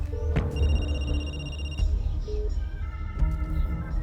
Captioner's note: phone rings